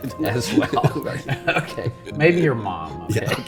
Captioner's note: laughing